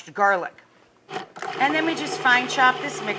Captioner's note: food processor whirring